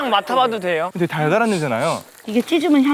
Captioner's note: sniffs